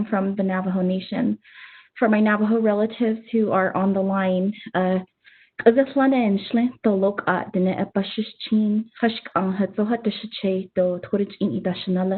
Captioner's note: speaking in native language